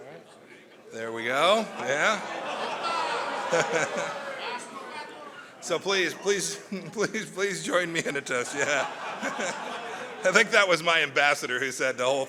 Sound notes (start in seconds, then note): 1.5 laughter; 6.6 laughs; 8.5 laughter